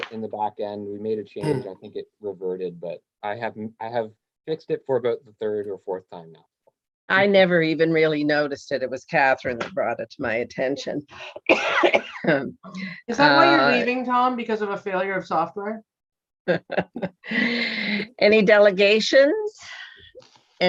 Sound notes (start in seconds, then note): 11.4 coughing; 16.5 laughing